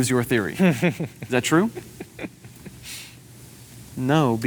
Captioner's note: laughs